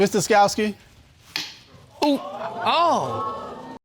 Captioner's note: thud; audience exclaiming